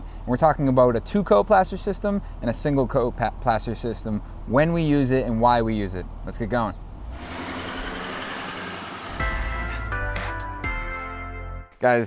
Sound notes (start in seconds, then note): 6.8 truck engine revs; 9.2 upbeat music begins